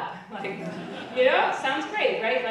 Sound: audience laughing

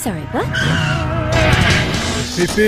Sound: bat-tire screech

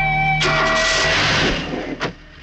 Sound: car engine starts

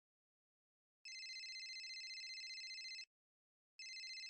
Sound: cellphone ringing

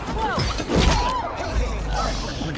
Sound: grunts

